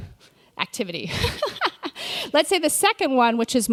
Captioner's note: laughs